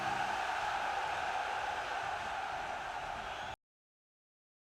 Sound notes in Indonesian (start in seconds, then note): 0.0 bersorak